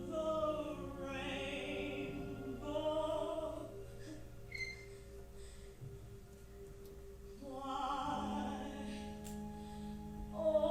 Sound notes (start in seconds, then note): 4.8 performer breathing heavily